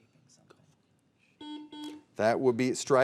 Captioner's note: buzzer beeping